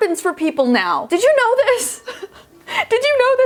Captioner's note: laughing